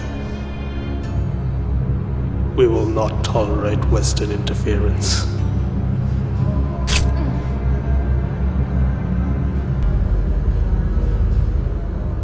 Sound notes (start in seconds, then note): 6.1 metallic whooshing; 7.4 grunting; 9.8 light haunting music